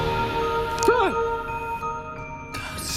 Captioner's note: yelling